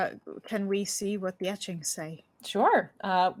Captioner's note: none